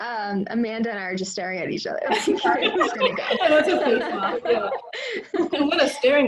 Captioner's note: laughter